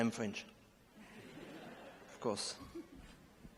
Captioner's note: laughter